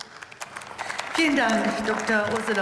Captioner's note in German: Beifall